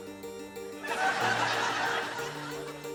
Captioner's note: laughter